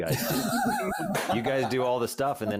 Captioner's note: laughs